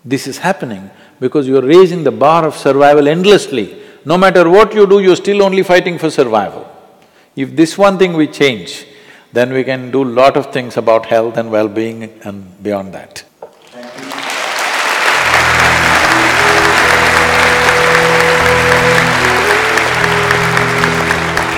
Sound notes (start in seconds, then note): 15.9 applause